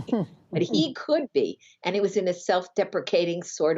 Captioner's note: laughter